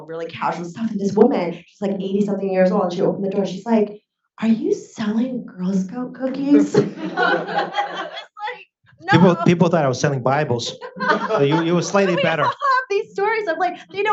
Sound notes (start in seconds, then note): 6.3 audience laughs